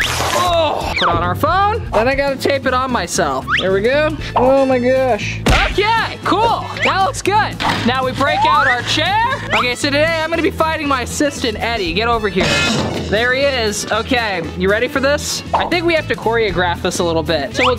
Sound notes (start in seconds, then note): 12.4 clanging